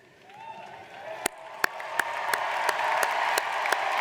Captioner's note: audience cheers